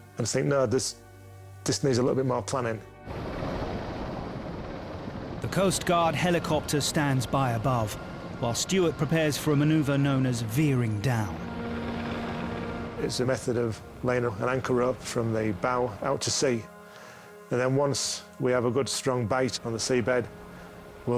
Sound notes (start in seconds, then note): 3.7 helicopter droning